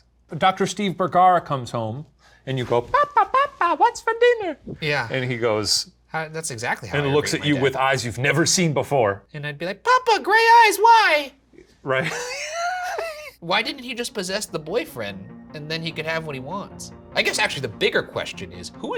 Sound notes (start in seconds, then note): 11.9 Shane laughs